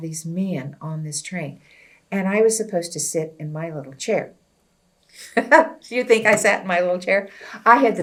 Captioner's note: laughs